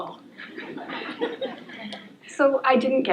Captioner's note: laughter